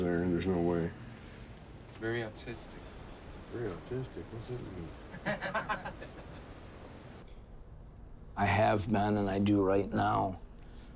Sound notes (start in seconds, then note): 4.3 laugh